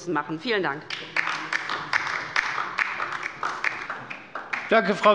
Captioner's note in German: Beifall bei der LINKEN